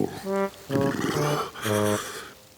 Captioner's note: shivering